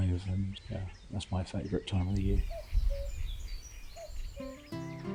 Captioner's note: cuckoo calling